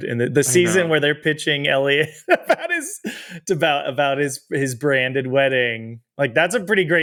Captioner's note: laughs